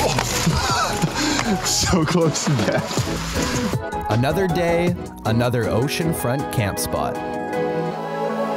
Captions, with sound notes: (laughs) So close to death. Another day, another ocean front camp spot.